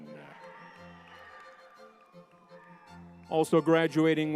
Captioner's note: crowd cheering